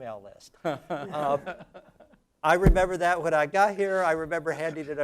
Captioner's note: laugh